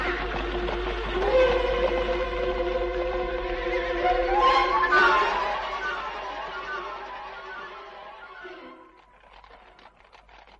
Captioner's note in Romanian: Aplauze